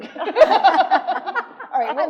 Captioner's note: attendees laughing